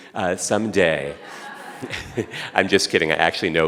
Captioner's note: audience laughing